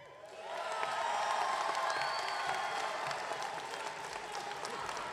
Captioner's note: audience clapping